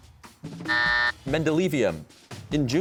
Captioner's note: buzzer sounds